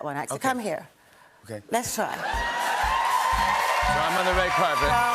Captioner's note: cheers and applause